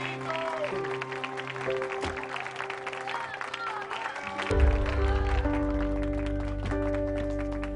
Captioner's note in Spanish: Aplausos y exclamaciones